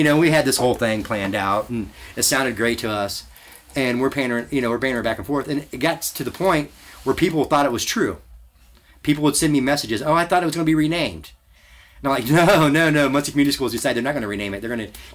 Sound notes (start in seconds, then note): 12.2 laughs